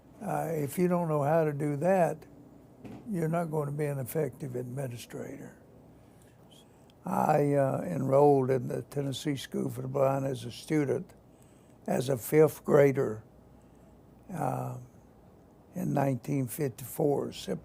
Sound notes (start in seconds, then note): none